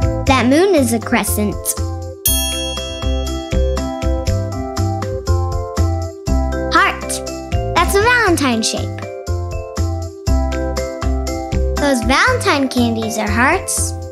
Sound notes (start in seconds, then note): 2.2 bell dings